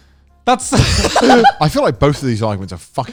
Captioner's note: cackling